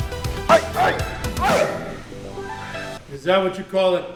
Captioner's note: funky music; grunting